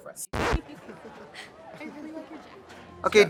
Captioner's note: record scratch